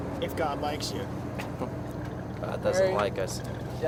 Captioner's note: Marine, chuckling